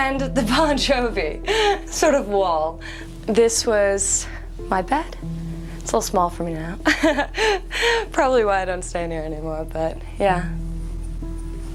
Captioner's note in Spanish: risas